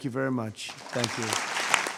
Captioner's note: applause